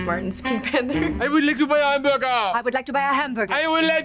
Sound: heavy French accent; heavy French accent

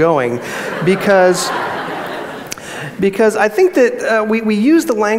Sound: audience laughs

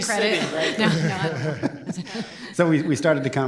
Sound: laughter

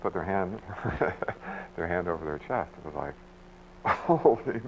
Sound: chuckles

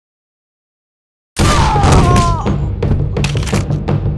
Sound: sounds of rochelle getting her shit kicked in

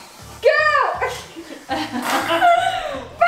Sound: laughing

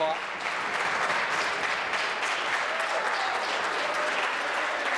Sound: applause

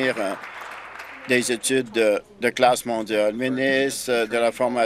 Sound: applause

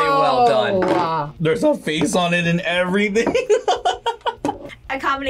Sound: laughs

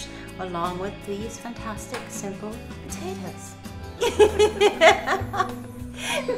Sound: laughter

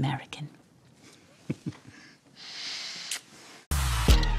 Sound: chuckles

